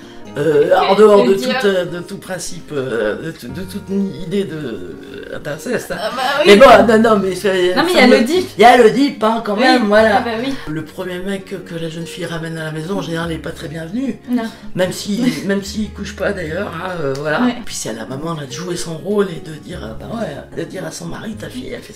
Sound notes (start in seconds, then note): 5.0 laughs